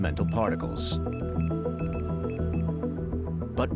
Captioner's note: device beeping